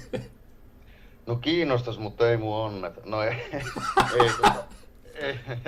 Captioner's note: laughing!!!